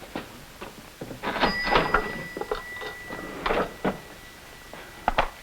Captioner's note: register dings